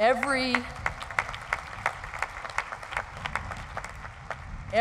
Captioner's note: applause